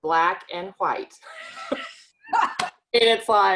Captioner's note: both laughing